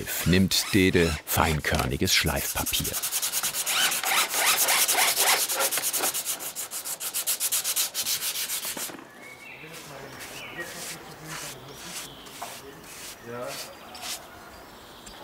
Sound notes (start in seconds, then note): 3.7 cordless screwdriver whirring; 10.9 birds chirping